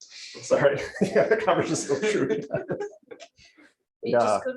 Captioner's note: laughs